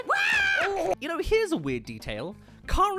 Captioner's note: screams